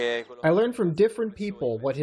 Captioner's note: through translator